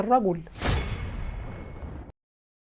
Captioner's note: sound effects